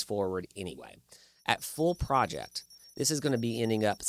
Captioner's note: calculator beeping